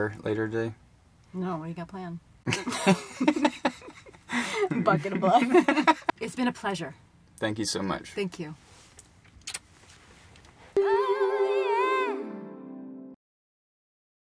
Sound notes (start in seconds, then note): 2.4 both laugh